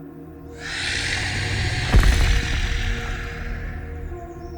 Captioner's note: snake screeches